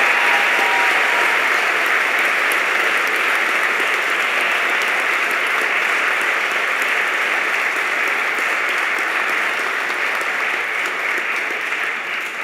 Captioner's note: cheers and applause